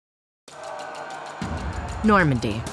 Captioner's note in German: Schlachtgebrüll